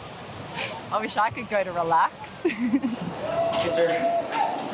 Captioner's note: laughs